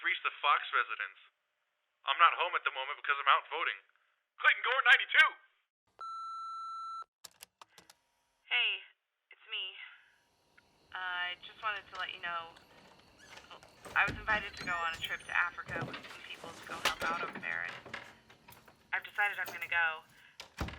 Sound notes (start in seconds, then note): 6.0 answer machine beeps; 7.3 answer machine clicks